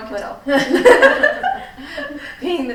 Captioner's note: all laughing